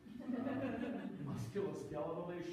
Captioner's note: audience laughing